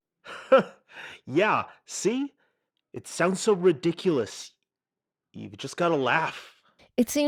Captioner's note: laughs